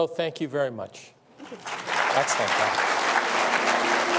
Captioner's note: applause